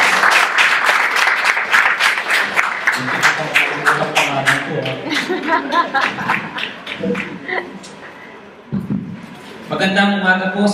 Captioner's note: audience laughs